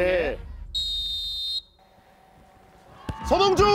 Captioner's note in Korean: 호루라기 소리